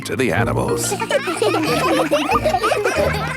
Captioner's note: children laughing